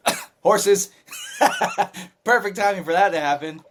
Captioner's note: laughter